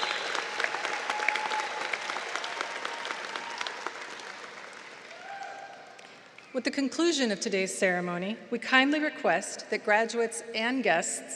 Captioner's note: applause